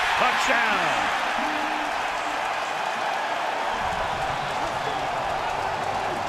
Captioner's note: cheering